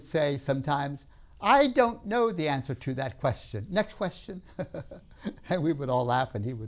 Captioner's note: laughs